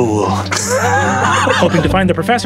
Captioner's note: laughing